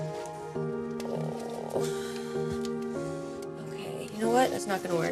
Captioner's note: groans